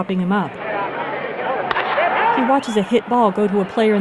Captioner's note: crack of the bat